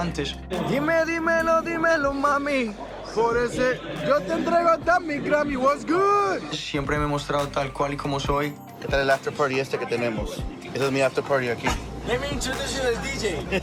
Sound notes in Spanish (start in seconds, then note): 5.3 en inglés; 7.0 en español; 11.8 en inglés